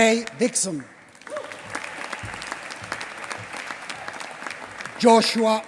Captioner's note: applause